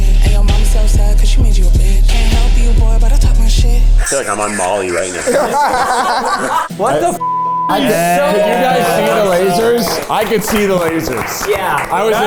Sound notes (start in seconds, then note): 4.3 everyone laughing; 7.9 everyone applauding